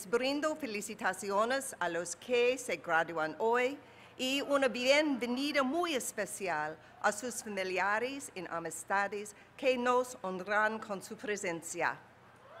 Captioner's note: speaking spanish